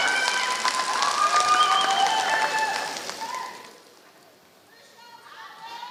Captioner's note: applause